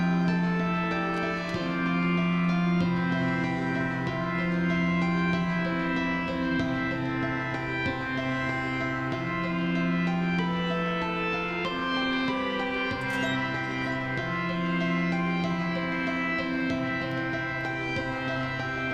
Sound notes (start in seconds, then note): 13.0 door creaks